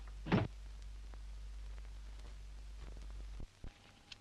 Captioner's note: door closes